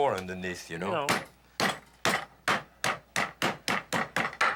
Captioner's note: hammering